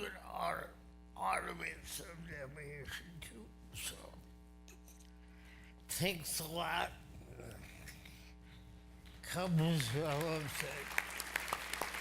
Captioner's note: applause